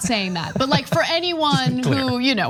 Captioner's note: laugh